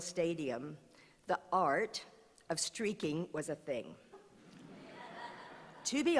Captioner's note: laughter